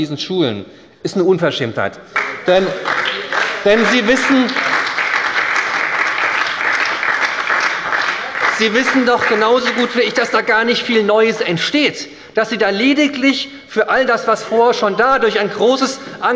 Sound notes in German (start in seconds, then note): 2.1 Beifall bei der SPD